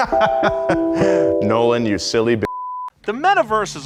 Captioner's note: laughing; beep